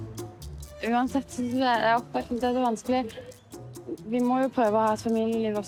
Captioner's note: speaking in foreign language